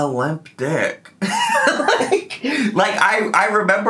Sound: laughs

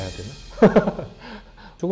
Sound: hehehe

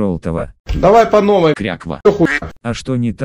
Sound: quack!

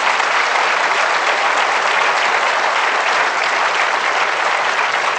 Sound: applause

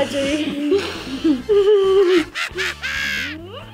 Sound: laughs

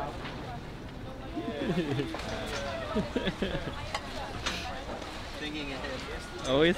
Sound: group continues chattering

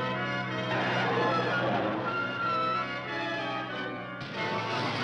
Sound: tires screech; thrilling music

